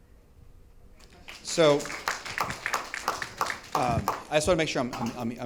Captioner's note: audience applauds